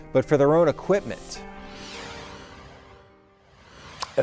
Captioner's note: air whooshing